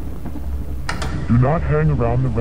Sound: television static hissing; VHS player clicking

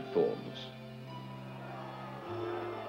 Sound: people murmuring

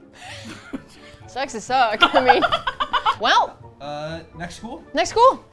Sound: laugh

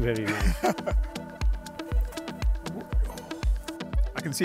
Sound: laughter

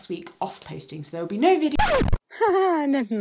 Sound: record scratches

